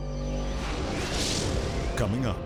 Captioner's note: light mysterious music; graphics whooshing